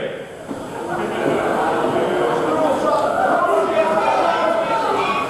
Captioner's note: audience booing